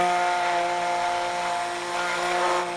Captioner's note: mixer whirring